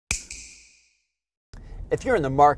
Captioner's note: snap